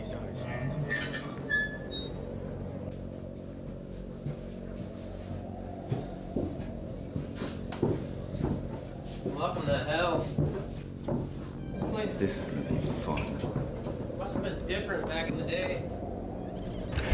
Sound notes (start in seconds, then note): 0.8 puerta cruje; 4.5 pasos haciendo eco; 16.8 puerta clangs